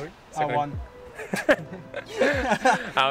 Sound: laughs

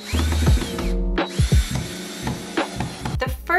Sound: light music; drill buzzing

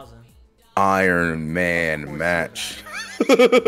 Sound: laugh

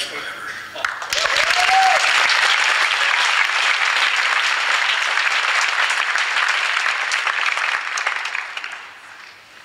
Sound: applause

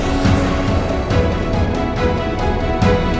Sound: blast

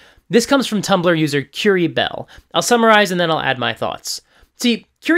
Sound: none

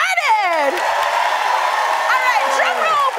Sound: cheering and applause

